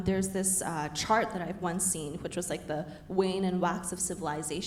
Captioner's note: none